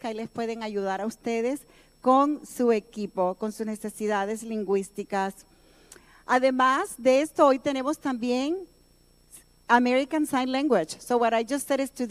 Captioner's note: speaking in native tongue